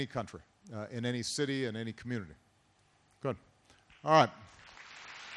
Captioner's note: applause